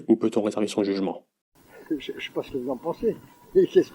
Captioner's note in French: rire